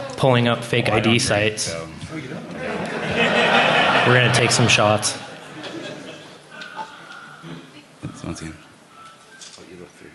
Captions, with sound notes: going to take some shots. [Laughter] >> Here you go. Sorry, I don't drink. Once